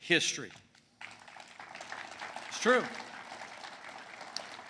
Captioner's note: applause